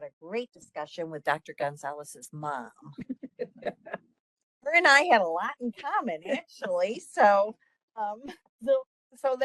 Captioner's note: laughing